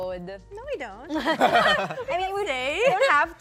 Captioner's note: laughter